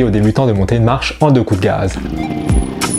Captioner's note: zap